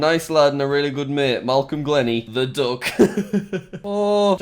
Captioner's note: laughs